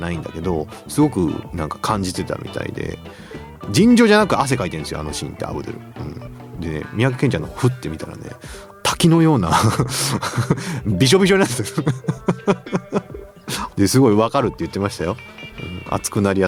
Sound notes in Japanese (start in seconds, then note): 9.2 笑い